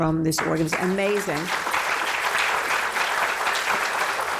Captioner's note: applause